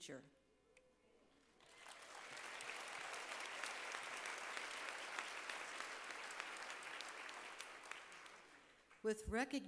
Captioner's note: applause